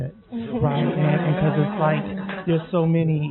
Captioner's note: laughing